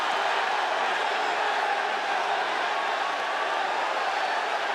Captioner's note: audience cheering